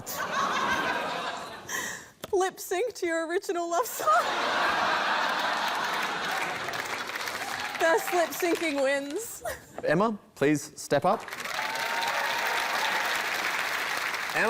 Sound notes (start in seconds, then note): 0.0 laughter; 4.1 laughter, applause; 11.2 cheering, applause